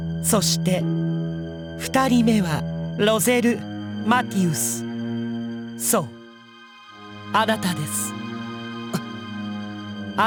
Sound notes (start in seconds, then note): 9.2 gasp